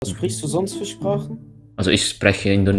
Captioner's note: German